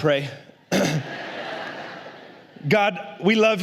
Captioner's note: la congregación se ríe